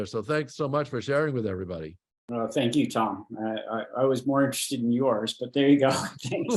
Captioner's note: laughter